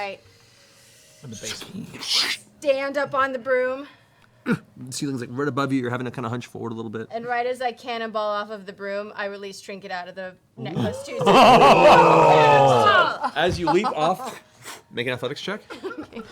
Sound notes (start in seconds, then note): 11.4 shouting